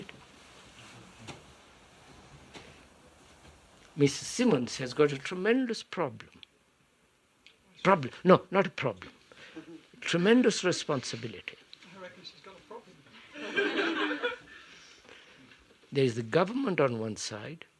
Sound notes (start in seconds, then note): 13.2 laughter